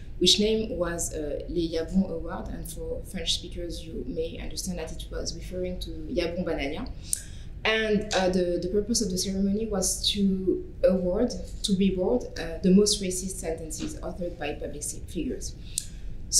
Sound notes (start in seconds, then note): 1.6 french; 6.6 french